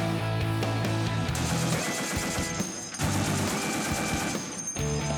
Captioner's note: machine gun firing; shell casings clinking